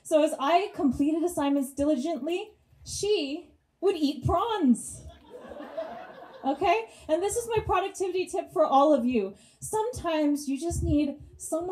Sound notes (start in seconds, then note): 5.2 audience laughs